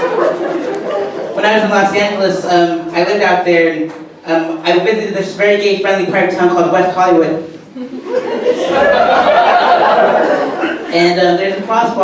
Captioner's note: audience laughter; audience laughter